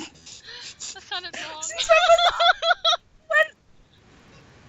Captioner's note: laughs